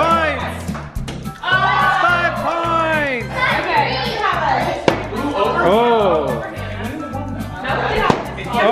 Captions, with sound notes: Three points! (group cheers) Five points! (group yells)